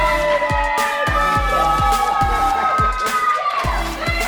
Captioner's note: family cheering